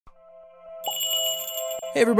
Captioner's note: magical jingle